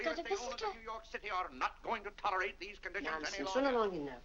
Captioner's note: Mr. Day rambling to himself